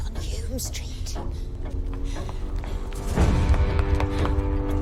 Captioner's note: ticking continues